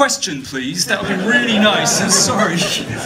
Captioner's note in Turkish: kahkahalar